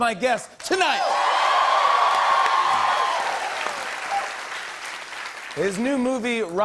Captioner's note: cheers and applause